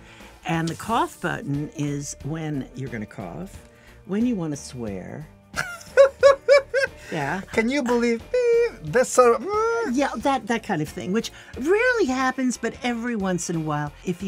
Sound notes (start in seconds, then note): 5.6 laughing